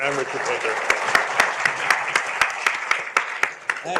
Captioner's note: applause